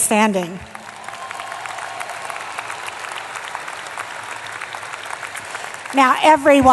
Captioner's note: applause